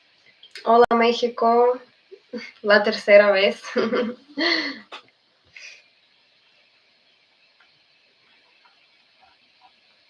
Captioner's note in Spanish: risas